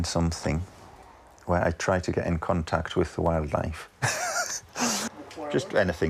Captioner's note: laughs